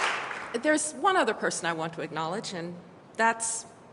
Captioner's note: applause